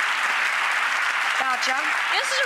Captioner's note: applause